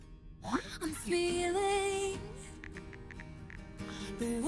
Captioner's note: phone chimes